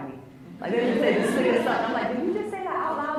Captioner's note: laughs